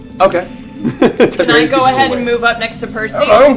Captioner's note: laughs